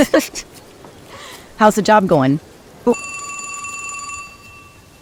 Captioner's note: phone rings